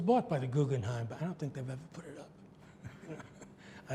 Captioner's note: laughs